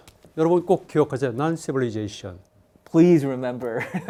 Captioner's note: speaking in Korean